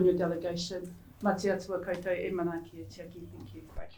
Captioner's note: speaking in Māori